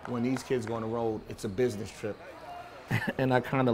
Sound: laughs

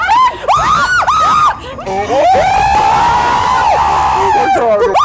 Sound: screaming

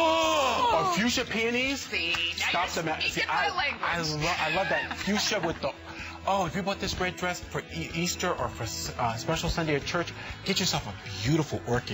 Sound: laughter

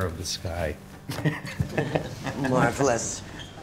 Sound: people laughing in the background

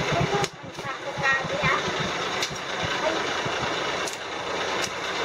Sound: speaking foreign language

